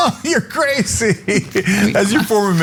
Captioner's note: laugh